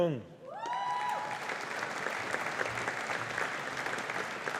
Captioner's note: audience applauding